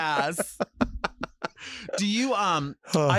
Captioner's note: laughs